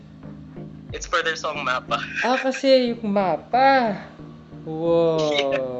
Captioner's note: laughs; laughs